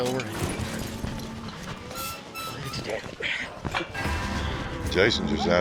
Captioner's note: gate creaking